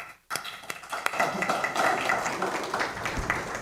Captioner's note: applause